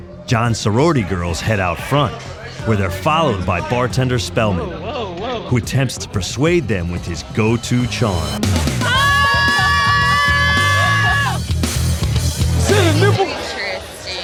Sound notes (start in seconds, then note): 8.8 screaming; 11.2 rock music